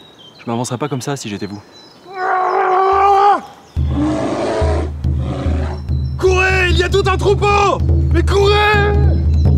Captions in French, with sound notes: Je ne m'avancerais pas comme ça si j'étais vous (cris de lutte) (rugissements d'ours) - Courez ! Il y a tout un troupeau ! Mais courez !